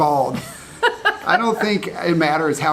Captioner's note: laughing